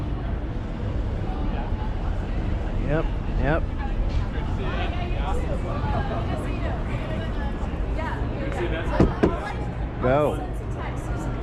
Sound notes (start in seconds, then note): 8.9 tap